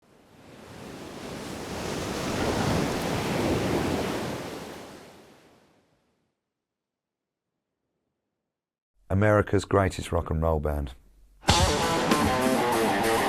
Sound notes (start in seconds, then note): 0.0 waves crashing